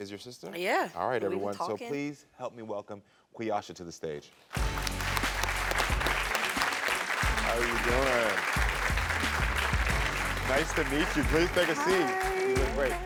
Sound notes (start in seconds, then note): 4.5 audience clapping; 4.6 upbeat music; 8.2 audience clapping